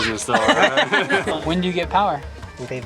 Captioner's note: laughing